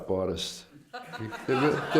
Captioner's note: laughter